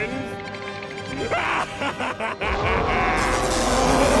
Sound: laughs

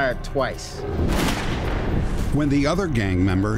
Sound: gun shot firing

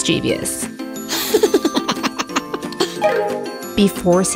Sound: laughing

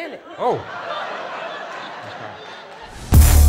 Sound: laughter

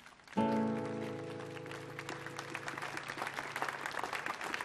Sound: applause

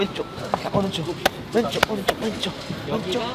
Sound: slap

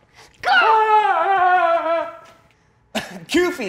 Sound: screams; laughs

